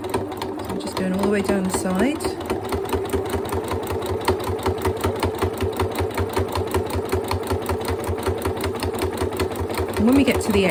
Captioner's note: sewing machine noise